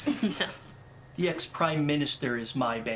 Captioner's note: laughing